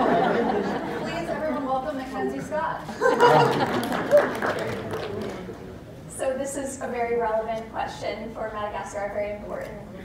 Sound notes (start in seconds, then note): 2.9 laughter & applause